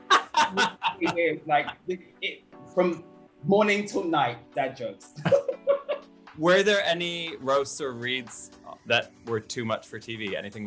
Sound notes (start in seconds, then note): 0.0 laughter; 5.2 laugher